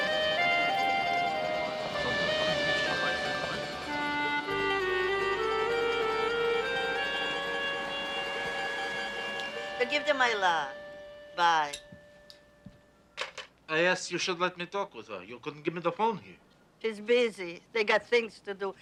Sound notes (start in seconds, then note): 1.3 indistinct chatter